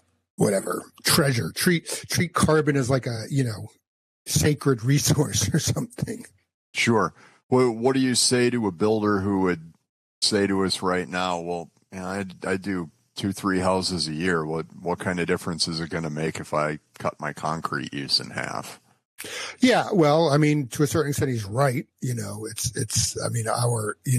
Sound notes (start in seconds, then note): 5.2 chuckles